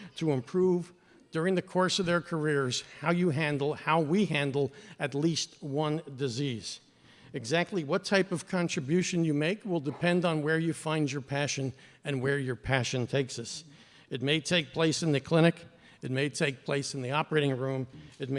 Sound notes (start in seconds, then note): none